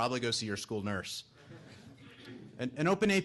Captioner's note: audience laughing